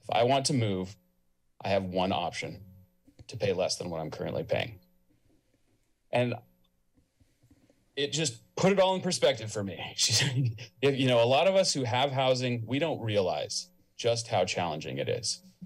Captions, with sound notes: If I want to move, I have one option: to pay less than what I'm currently paying." And, it just put it all in perspective for me [chuckles]. You know, a lot of us who have housing, we don't realize just how challenging it is.